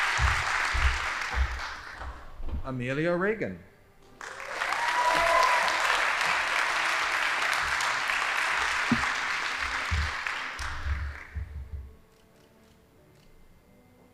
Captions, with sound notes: Amelia Regan. (audience applauding) (band playing)